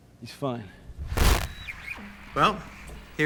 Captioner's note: static